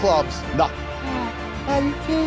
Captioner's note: whining